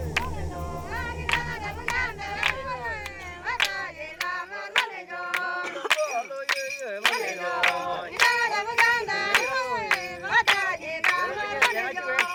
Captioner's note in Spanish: ovación